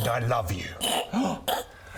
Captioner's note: gasp